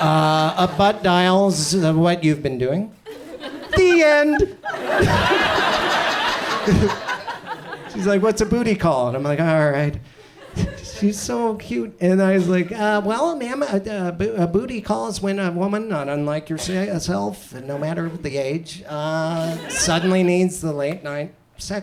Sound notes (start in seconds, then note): 4.7 audience laughs